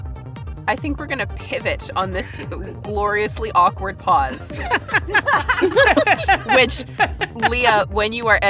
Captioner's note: laughs